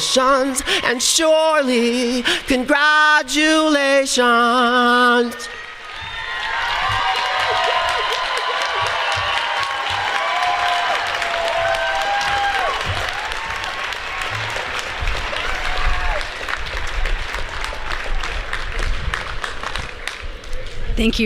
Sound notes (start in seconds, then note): 6.1 applause